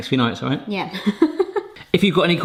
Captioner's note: laughs